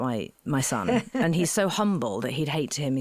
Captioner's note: laughing